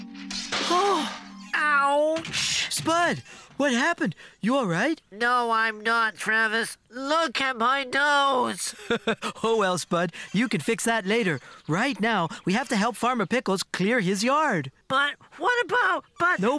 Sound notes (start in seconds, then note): 0.0 crash!; 8.5 laughing